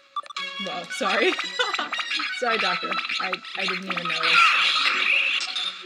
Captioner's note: laughing